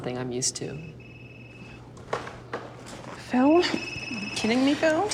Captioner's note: phone ringing